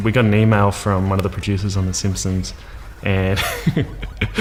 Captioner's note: laughs